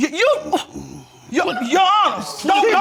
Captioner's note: scoffs